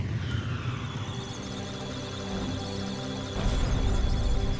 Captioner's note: electronic sounds of data; musical tones